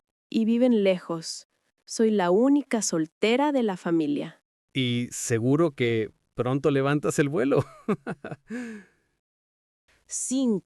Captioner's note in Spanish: risas